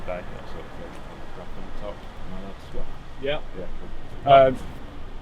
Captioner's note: indistinct chatter